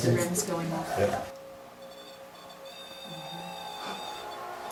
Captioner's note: machine beeping